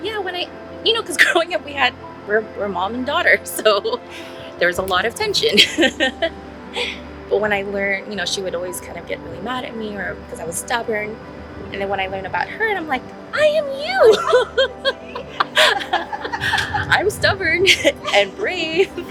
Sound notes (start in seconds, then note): 5.5 laughs; 14.0 laughs